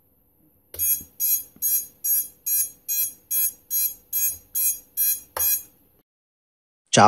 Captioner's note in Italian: esc beep sound